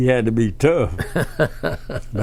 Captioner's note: laughs